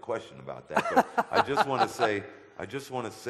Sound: audience laughter

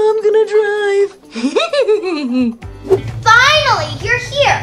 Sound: hee hee hee

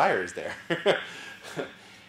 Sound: laugh

